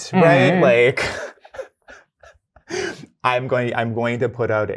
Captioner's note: laughs